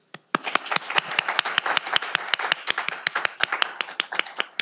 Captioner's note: audience applauding